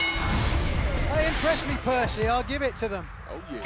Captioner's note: bell ringing